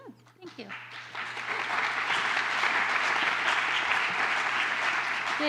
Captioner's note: applause